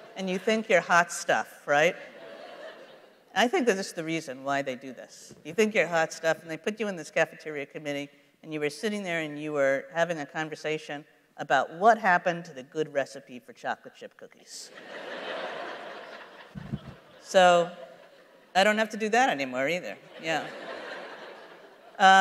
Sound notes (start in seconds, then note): 14.7 laughter